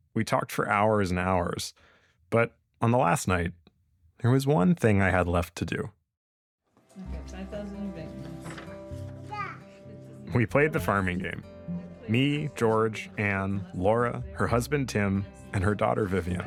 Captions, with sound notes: We talked for hours and hours. But, on the last night, there was one thing I had left to do. Okay, 5,000 in bank notes. [baby coos] We played The Farming Game. Me, George, Ann, Laura, her husband Tim, and her daughter Vivienne.